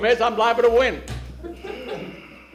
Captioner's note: laughter